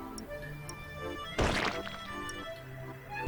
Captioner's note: wet plopping sound